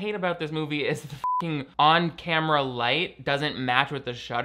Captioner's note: beep